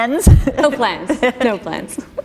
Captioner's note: chuckle